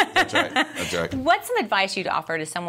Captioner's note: laughing